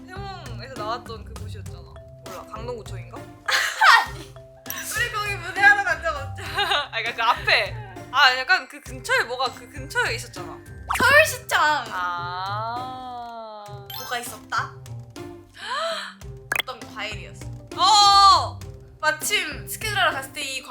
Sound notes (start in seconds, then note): 15.6 gasp